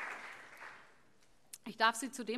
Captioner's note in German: Allgemeiner Beifall